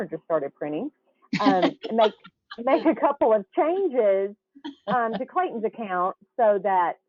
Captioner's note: laughs